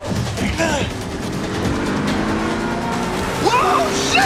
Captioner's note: car revving